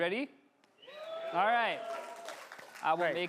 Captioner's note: crowd clamoring and clapping